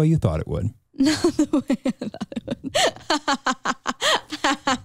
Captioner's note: laughs